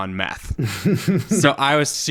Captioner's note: guffawing